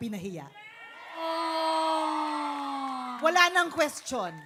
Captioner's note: audience cheering